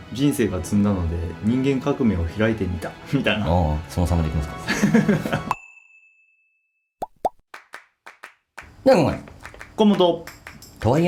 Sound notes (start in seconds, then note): 4.7 laughs